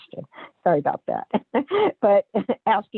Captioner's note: laughs